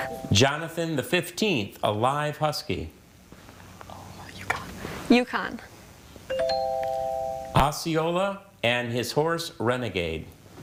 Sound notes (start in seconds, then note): 0.0 chuckling; 0.0 text chiming; 6.3 text chiming